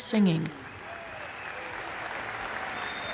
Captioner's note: applause